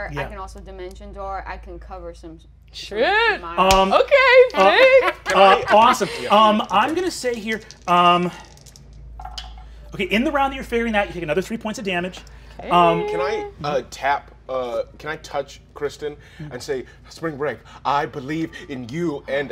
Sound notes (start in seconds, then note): 6.3 dice rattling